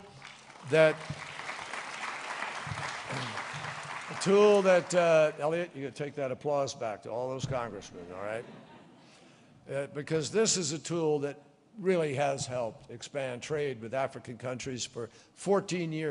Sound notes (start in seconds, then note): 0.0 applause; 8.2 laughter